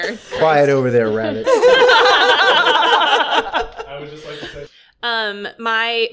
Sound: laughter

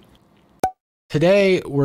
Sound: cork pop

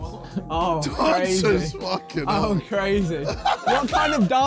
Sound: laughing

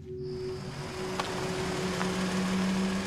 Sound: engine shuts off

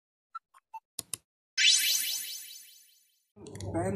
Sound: click; cartoon wizz

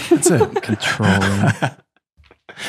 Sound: laughing

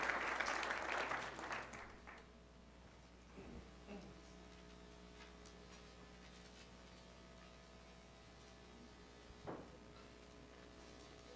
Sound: applause

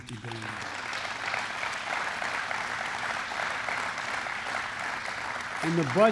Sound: applause

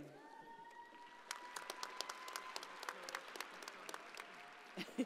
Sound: audience applauding

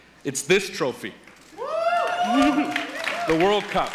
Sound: cheers and Applause Continue; cheers and Applause from the Audience

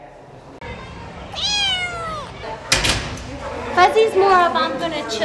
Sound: meow

